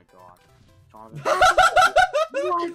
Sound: laughs

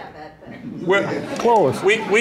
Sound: laughter

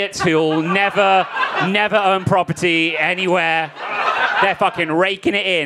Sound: crowd laughing

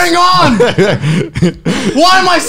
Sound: laughing loudly

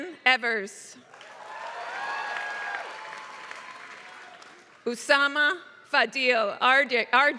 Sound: applause

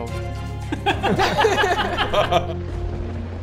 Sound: hysterical laughter

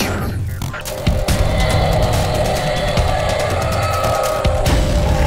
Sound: roar

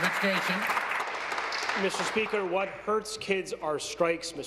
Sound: applause

